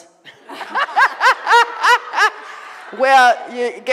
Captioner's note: laughing